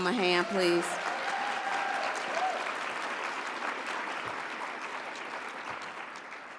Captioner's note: audience cheers and applauds